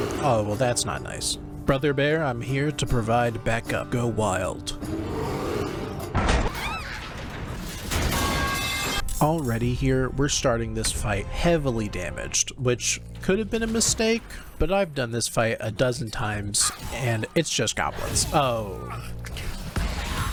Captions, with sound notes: Oh, well that's not nice. Brother Bear, I'm here to provide backup. Go wild. [Grunts] Already here, we're starting this fight heavily damaged, which could have been a mistake, but I've done this fight a dozen times and it's just goblins. Oh...